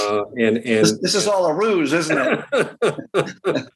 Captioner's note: laughter